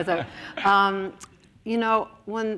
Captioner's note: laughs